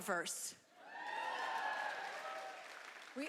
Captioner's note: cheering